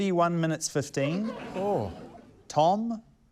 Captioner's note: laughter